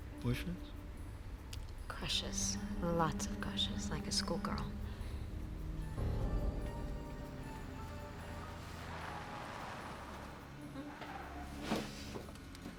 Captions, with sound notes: - Boyfriends? - Crushes, lots of crushes, like a school girl. (car approaching)